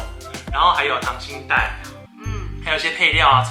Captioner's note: swallowing